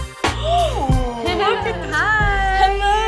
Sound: gasps

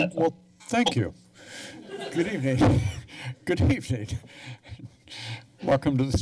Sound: laughter

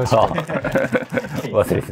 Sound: laughing

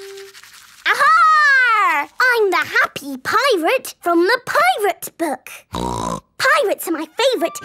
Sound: snorting

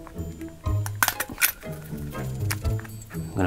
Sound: stapler clicks

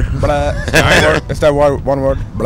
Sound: laughs

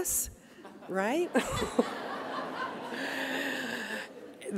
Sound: audience laughing

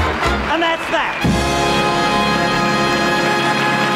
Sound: audience applause

